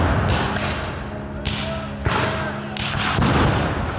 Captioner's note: guns fire